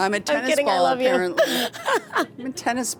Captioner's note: laughs